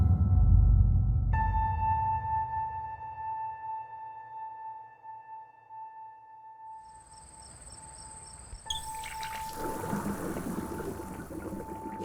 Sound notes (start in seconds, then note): 0.2 creepy music; 9.7 water running